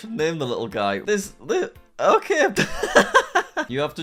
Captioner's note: laughs